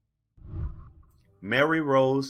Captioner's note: whooshing